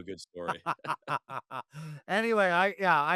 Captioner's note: laughing